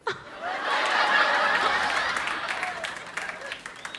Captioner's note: audience laughs